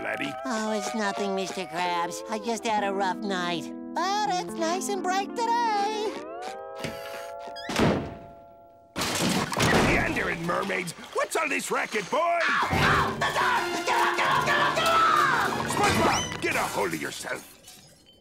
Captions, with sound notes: Oh, it's nothing, Mr. Krabs. I just had a rough night. But it's nice and bright today! [clattering] Meandering mermaids! What's all this racket, boy? [screaming] The dark! Get it off, get it off, get it off, get it off! SpongeBob! Get a hold of yourself!